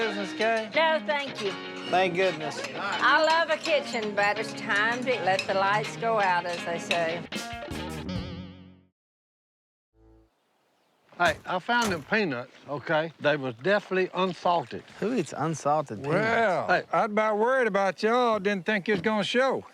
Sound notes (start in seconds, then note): 11.2 ducks quacking